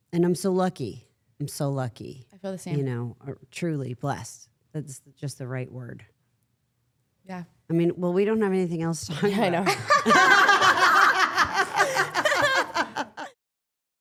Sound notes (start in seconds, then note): 9.6 everyone laughs